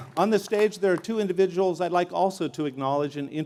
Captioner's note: applause